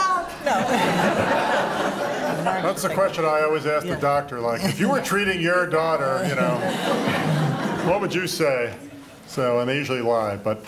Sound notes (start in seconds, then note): 0.4 laughter